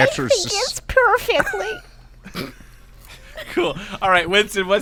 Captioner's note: Werner Herzog voice; dying little German child voice; laughter